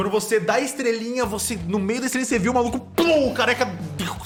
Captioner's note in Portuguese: pow